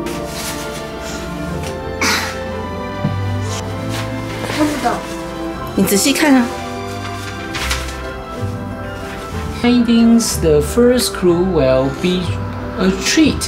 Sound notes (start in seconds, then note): 9.6 is reading aloud in English